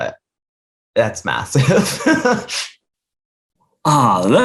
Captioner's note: laughs